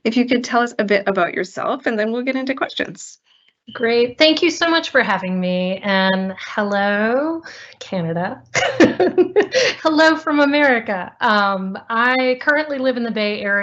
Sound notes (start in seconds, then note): 8.5 laughter